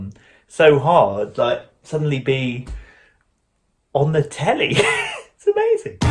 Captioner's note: laughs